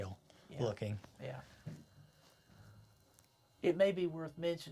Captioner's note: steady tone